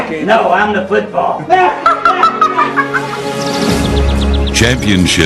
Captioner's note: laughter